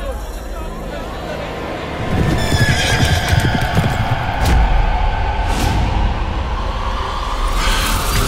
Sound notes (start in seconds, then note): 2.0 horses galloping